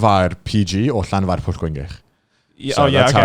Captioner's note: speaking foreign language